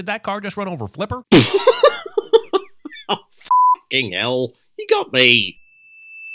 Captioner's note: chuckles